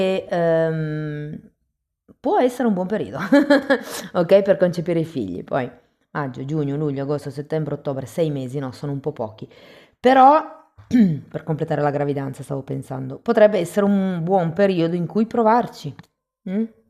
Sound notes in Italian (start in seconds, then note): 3.2 risate; 10.8 schiarire la voce